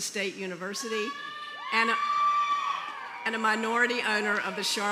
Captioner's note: cheering